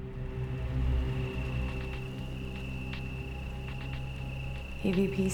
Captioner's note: ominous music; crickets chirping